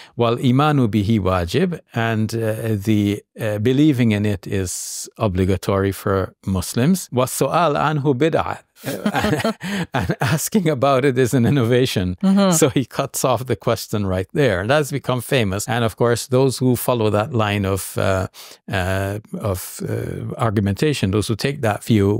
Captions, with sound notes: while (talks Arabic) and the believing in it is obligatory for Muslims, (talks Arabic). (both laugh) And asking about it is an innovation. So he cuts off the question right there, and that's become famous, and, of course, those who follow that line of argumentation, those who take that view,